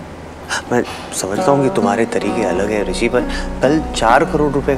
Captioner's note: Inhales